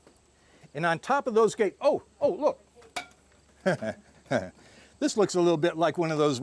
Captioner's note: chuckling